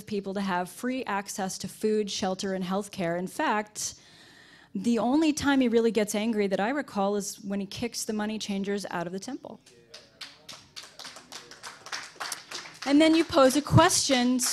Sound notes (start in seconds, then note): 9.8 applause